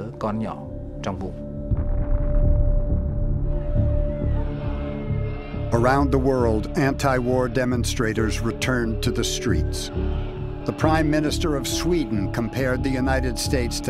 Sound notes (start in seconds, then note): 1.6 tense synthesizer music; 4.0 crowds chattering